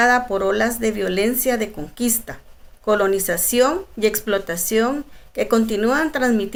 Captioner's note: speaking in Spanish